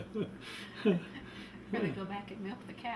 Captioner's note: laughs